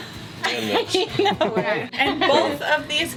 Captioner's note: laughter